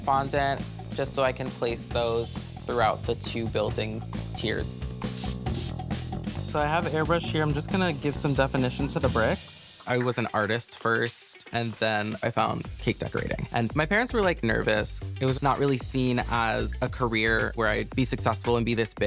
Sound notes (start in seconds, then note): 3.8 airbrush hisses